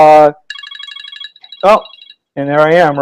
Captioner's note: blip blip blip sound